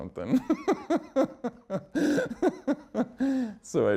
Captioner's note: laughs